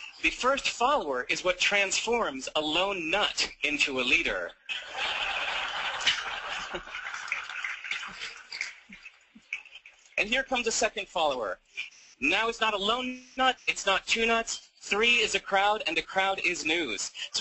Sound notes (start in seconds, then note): 4.6 audiences Laugh